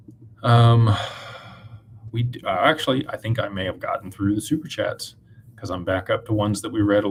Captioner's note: sighs